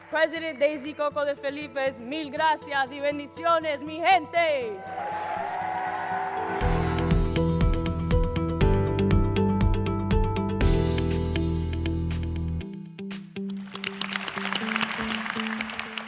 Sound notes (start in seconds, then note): 6.8 cheers and applause; 15.8 applause